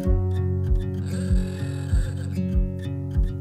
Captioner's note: alarm sound